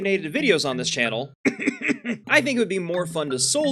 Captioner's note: coughs